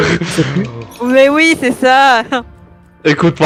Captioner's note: laughing